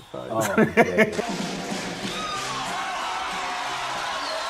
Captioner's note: crowd cheering